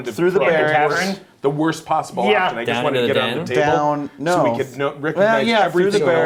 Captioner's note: chattering